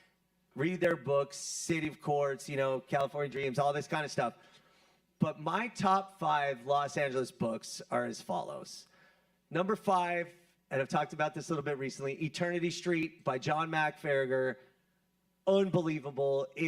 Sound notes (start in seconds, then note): none